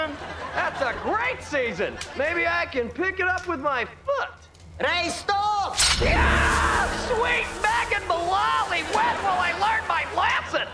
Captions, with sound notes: That's a great season! Maybe I can pick it up with my foot! Ray, stop! [screaming] Sweet Mag and Malollie, when I learn my lesson?